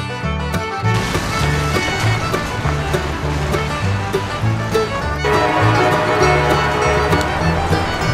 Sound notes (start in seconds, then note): 5.2 train whistle